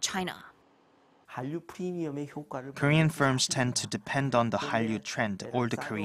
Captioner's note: Korean